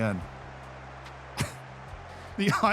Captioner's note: chuckles